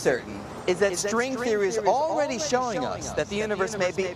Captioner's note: voice echoing